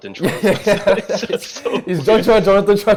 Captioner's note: laughs